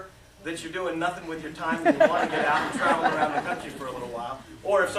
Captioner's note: laughter